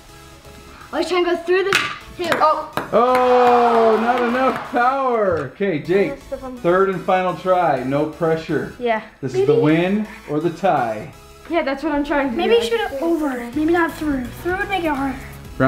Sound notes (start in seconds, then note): 2.2 ball clacks; 2.9 disappointed crowd